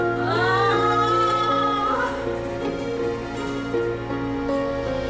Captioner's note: moaning